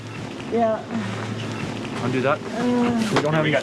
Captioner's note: generator powering suction